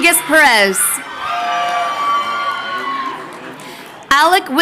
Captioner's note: crowd cheering